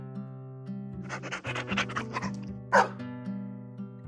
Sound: bark

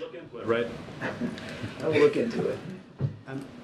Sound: laughs

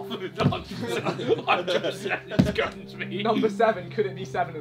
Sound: all laughing

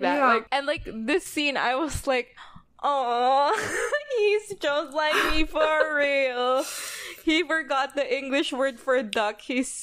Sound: laughs

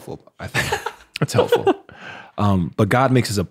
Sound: chuckles

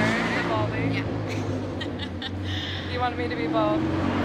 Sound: laughter

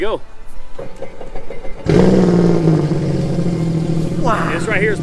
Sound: engine revs

